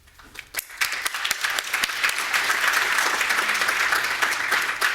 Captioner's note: audience applauding